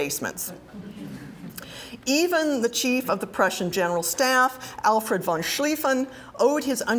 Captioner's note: laugh